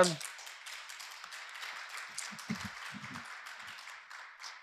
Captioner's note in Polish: oklaski